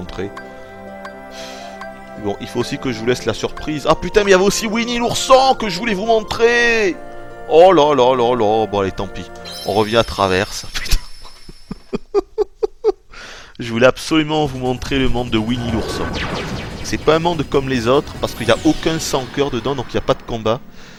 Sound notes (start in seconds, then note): 11.2 laughs